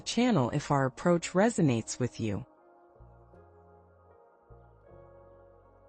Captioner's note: pause